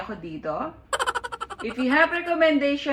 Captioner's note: laughing